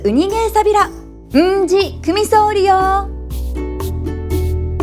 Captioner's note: in Okinawan